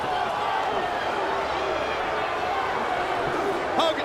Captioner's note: crowd boos